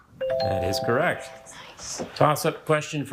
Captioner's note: bell ringing